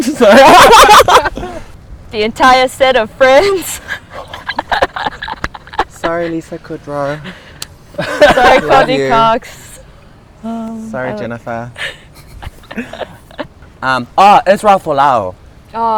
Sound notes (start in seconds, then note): 0.0 laughing; 3.5 laughing; 7.9 laughing; 11.8 giggling